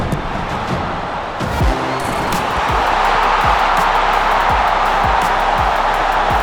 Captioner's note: crowd roaring